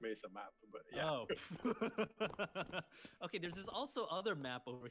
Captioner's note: laughter